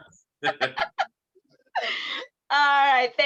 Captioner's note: both laugh